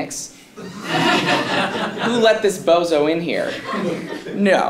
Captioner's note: laugh